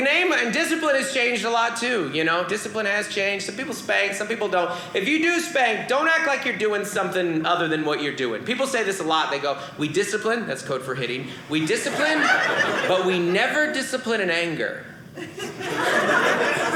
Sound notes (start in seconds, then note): 11.6 audience laughing; 15.2 audience laughing